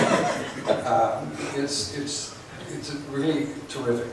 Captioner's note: laughs